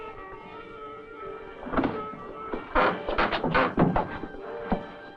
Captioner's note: door clicking